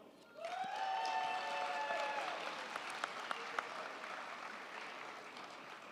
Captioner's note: crowd cheering; crowd clapping